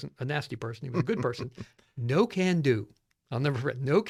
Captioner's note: laughs